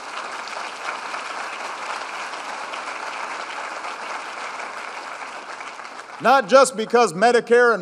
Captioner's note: applause